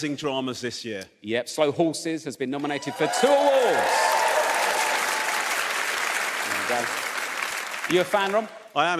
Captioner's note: audience cheers